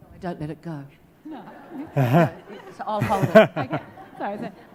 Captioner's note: audience laughs